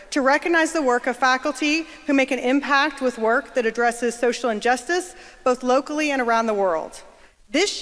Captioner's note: none